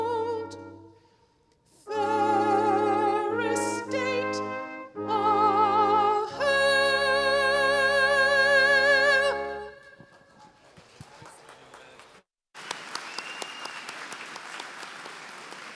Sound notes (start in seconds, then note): 10.9 applause